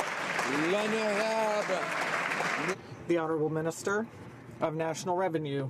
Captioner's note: some Applause